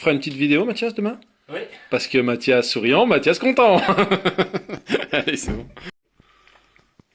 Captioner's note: laughs